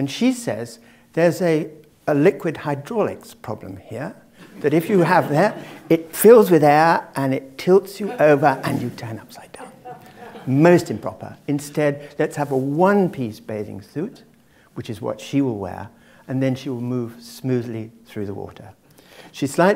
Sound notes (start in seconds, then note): 4.4 laugh